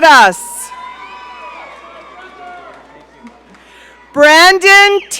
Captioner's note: audience cheering